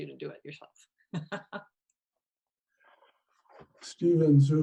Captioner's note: laughing